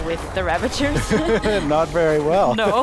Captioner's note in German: beide lachen